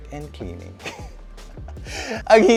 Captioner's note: giggles